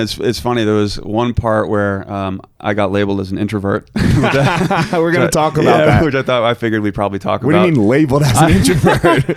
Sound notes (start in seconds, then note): 4.0 laughing